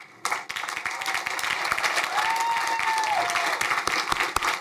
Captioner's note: crowd applauding